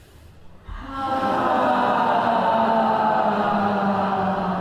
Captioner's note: loud sighing